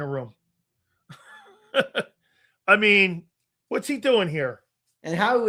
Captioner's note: laugh